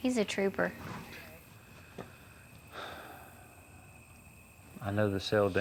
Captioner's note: sighs